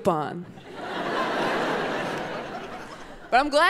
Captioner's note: audience laughing